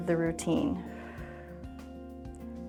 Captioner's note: exhales